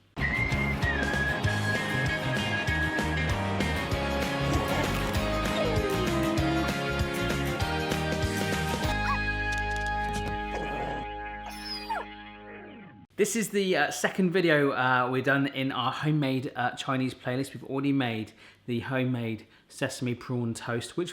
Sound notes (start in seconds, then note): 0.3 upbeat music; 9.2 barking; 9.2 whining